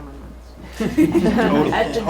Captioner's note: laughing